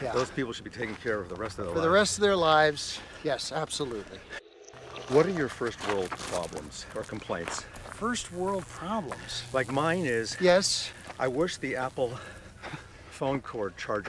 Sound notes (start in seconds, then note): 7.4 electric buzzing